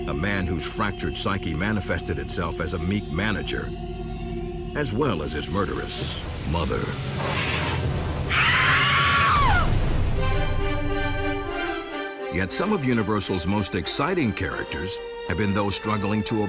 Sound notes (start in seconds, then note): 8.3 woman screaming; 9.9 inspirational music